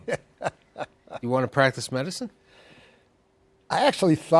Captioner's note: laughs